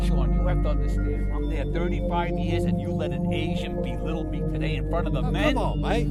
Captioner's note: TV noises